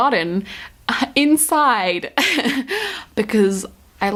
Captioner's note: laughs